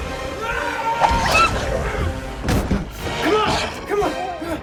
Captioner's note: Michael shouting